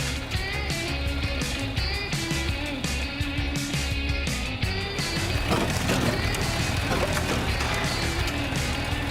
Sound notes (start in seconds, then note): 0.1 surf rock music; 4.8 motor rumbling